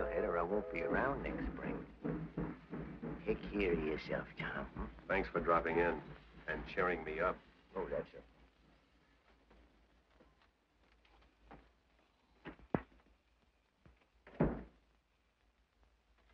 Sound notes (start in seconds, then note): 2.5 train chugs